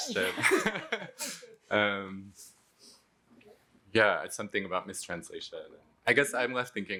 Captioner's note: laughs